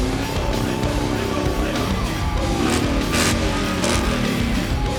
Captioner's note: engine revving